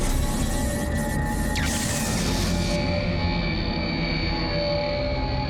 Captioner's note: zapping